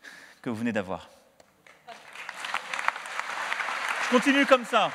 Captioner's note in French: Applaudissements